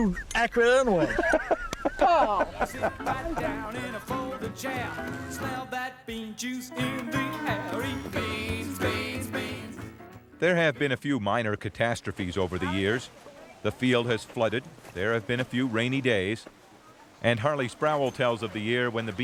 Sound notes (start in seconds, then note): 0.0 Don laughs; 1.4 woman slaps; 2.8 Don laughs